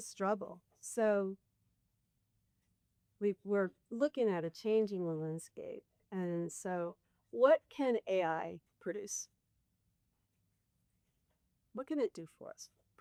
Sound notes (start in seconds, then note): none